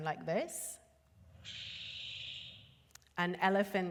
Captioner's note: birds chirping